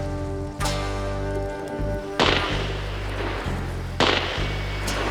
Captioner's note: shots